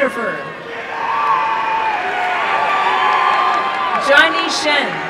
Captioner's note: applause and cheering